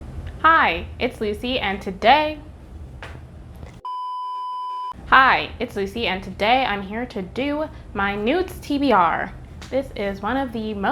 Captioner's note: blooper beep